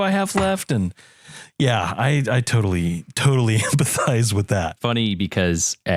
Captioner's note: laugh